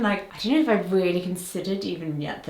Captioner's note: none